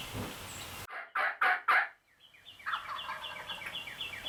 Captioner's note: turkey gobbling